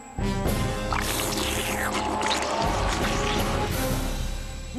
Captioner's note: slurping